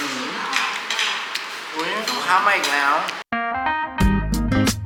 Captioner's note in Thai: ปรบมือ